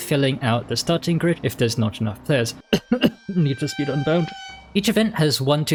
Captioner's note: cough, cough